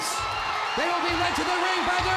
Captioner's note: crowd cheering